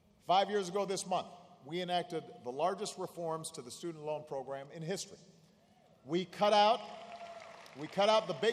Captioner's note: applause